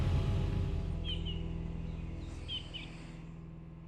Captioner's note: birds chirping